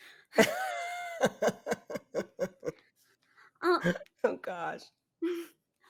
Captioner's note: laughs